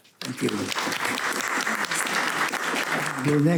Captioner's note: audience clapping